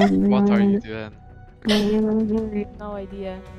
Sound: murmuring

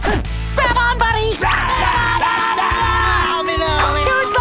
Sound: chattering, talking gibberish

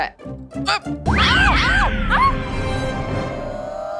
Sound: shrieks

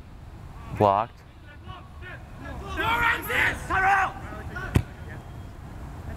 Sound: players talking and yelling

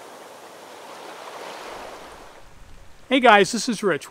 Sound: waves crashing against the shore

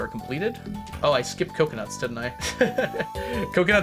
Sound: laughs

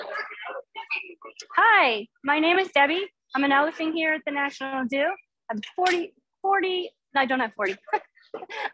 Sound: laugh

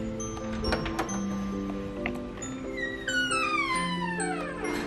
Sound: door creaking

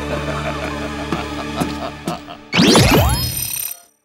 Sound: laughing maniacally

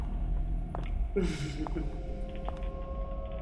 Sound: laughs

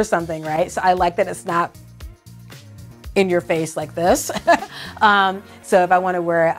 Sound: chuckles

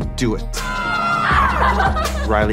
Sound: excited screaming

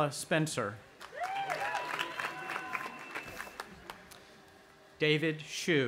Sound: audience applauding and cheering

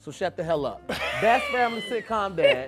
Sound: laughing

